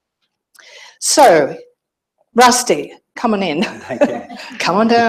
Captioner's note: laughs